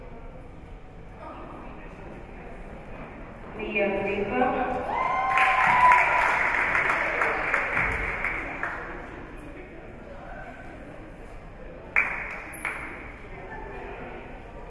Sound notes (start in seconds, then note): 4.8 spectators cheering and applauding